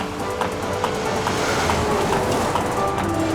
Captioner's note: loud traffic